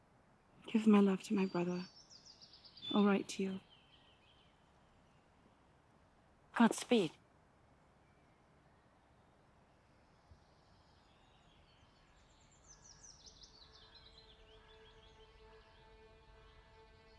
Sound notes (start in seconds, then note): 11.6 birds singing; 13.9 soft music